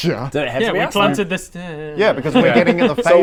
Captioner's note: mumbles